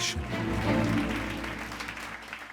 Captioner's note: applause